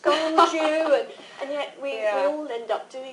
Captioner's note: laughter